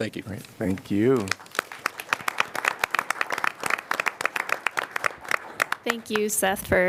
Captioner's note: applause